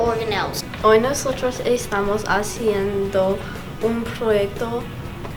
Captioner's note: speaking in foreign language